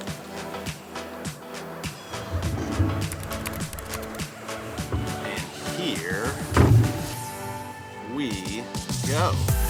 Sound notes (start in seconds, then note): 0.1 upbeat music; 3.1 keyboard clacking; 9.5 upbeat music